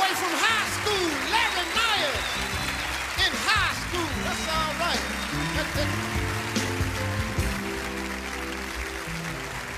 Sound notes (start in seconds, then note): 0.0 audience laughing; 5.6 audience applauding; 7.1 mellow music